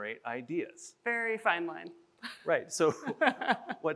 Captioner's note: chuckles